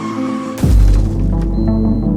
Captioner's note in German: Aufprall Geräusch